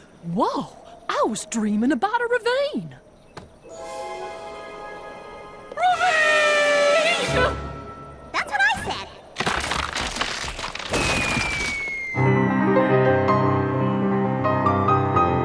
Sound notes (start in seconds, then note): 9.3 cracking